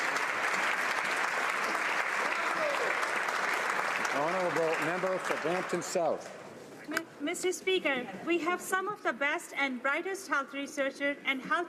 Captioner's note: applause